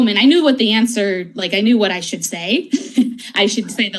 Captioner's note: laughs